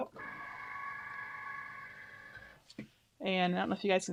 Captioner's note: machine whirring